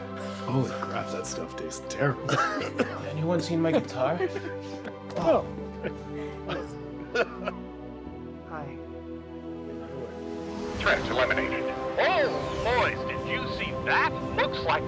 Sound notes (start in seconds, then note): 2.1 Darlus coughing